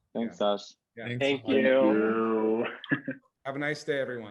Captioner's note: chuckles